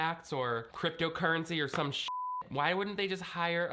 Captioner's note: beep